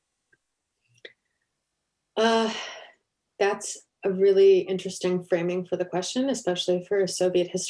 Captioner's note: sigh